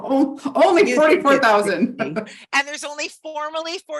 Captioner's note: chuckling